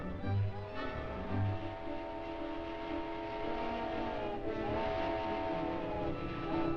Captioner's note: train chugging; train horn blaring